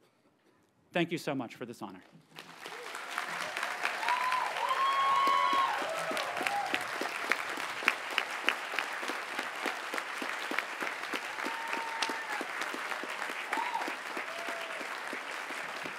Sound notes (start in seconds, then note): 2.3 audience cheers and applauds